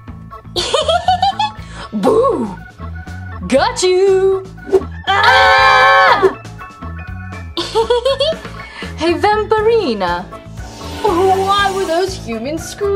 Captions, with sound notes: - (bat giggles) Boo! Got you! (all scream) - Hey Vampirina, why were those humans screaming?